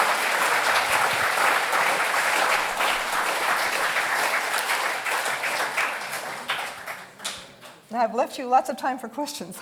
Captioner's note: applause